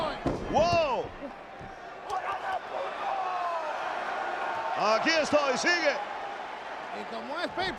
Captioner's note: applause